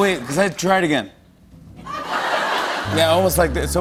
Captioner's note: laughter